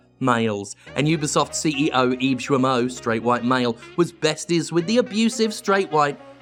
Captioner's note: mocking